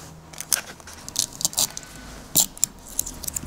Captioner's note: tearing noises